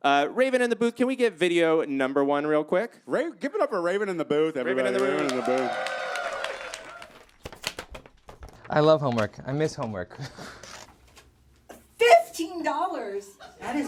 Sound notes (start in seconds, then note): 6.3 audience cheers